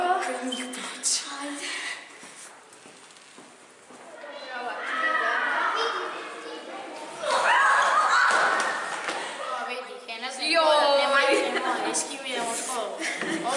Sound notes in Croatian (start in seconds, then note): 7.2 uzvici iznenađenja i padanja